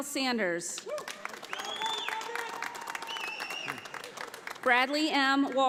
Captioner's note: audience applauding